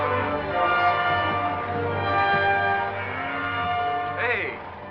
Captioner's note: bell